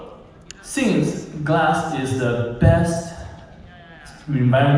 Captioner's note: background cheers